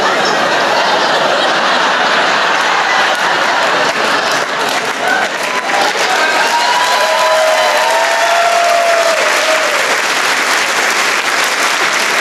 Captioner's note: laughter